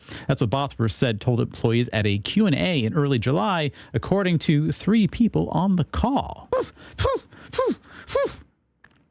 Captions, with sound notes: That's what Bosworth said told employees at a Q&A in early July, according to three people on the call. (Barking) Let